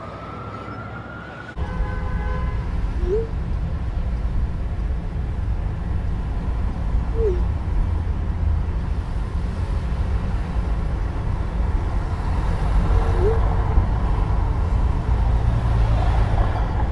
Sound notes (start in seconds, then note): 1.5 car honking; 3.0 cars moving; 3.0 text messages popping